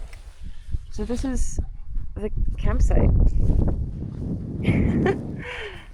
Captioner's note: wind howling; chuckles